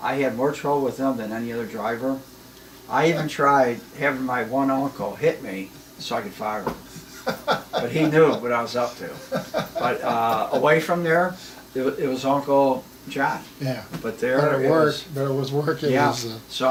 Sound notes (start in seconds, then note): 6.8 laughs